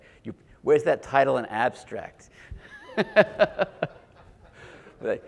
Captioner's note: laughs